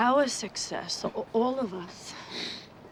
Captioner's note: sniffs